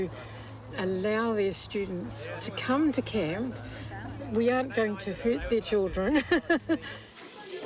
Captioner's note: laughs